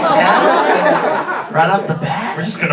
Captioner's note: audience laughing